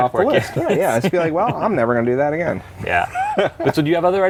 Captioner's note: laughs